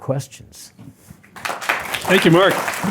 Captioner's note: applause